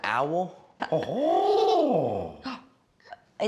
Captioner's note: owl sound